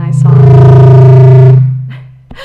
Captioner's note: mic thrumming loudly; laughs